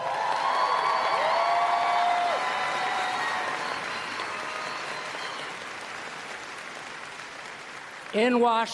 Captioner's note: applause